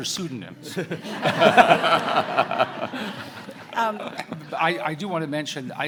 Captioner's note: audience laughs